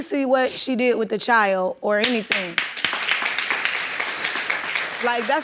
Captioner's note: audience applauding